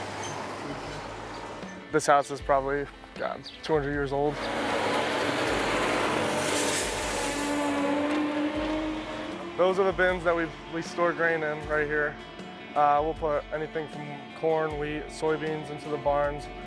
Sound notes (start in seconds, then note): 4.1 vehicle roaring